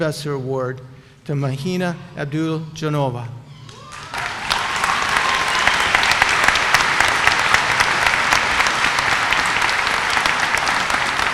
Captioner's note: applause